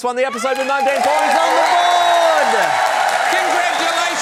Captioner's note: cheering, applause